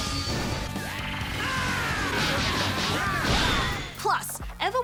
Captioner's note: screams